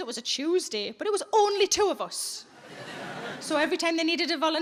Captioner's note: audience laughs